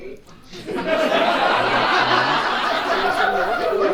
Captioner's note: audience laughs